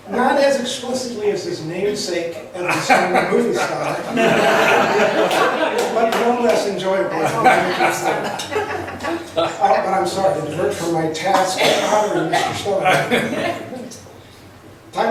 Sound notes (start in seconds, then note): 2.6 laughs